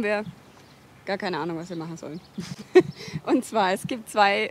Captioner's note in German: lacht